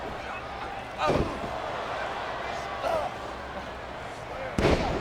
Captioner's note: crowd clamoring; canvas thumping